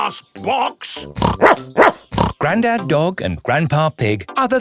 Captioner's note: snorts; barks